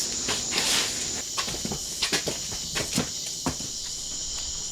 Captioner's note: skipping footsteps